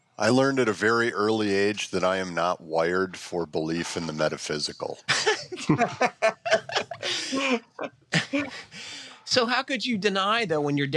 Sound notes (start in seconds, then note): 5.2 laughs